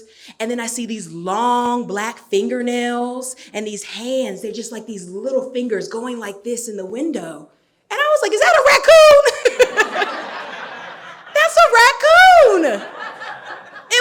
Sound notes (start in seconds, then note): 8.7 laughing; 9.2 audience laughing